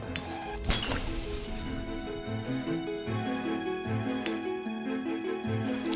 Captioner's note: glass shatters, music